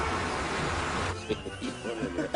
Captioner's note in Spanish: Risas